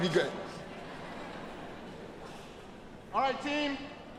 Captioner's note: audience laughing